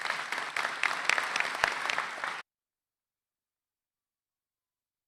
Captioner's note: applause